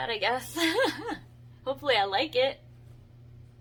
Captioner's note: giggles